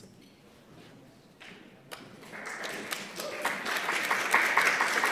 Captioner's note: applause